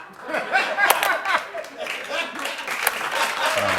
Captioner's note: laughter and applause